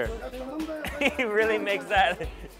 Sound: laughs

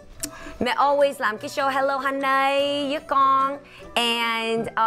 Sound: speaking foreign language

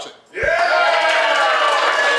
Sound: audience cheering and applauding

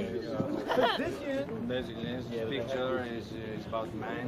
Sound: with French accent

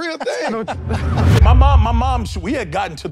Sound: wind whooshes

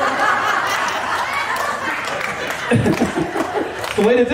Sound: audience laughing

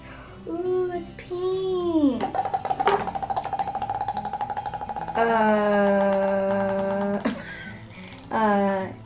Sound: balloon makes squirt noises

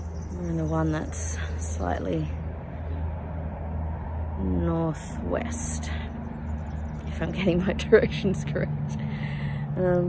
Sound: laughing

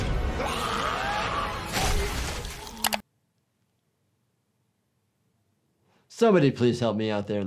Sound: ominous music; villain screams; keys clack; blood splatters

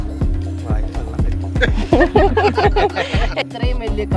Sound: laughing

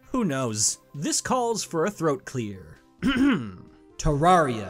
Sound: clears throat

